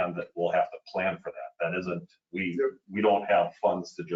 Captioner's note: none